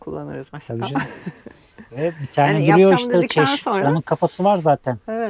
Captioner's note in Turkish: kahkaha